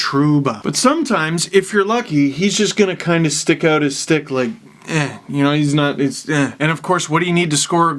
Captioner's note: grunt